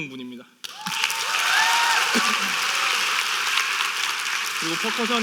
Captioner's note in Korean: 박수 및 환호